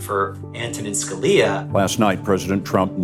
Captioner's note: soundbite of archived recording